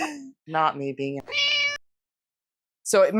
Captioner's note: meow